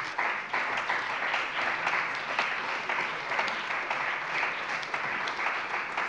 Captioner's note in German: Beifall bei der CDU und dem BÜNDNIS 90/DIE GRÜNEN